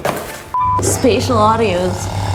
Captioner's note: beep